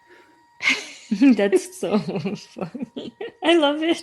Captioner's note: laughs